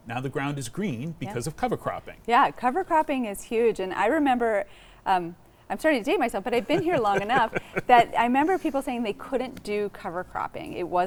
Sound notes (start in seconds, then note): 6.6 laughing